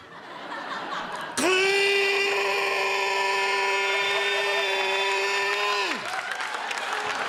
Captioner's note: roars